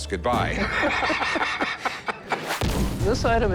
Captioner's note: laughter